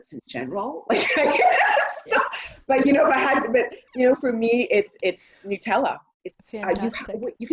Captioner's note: laughter